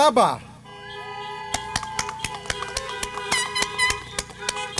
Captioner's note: applause